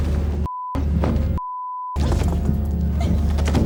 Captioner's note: body crashing; objects crashing; dramatic music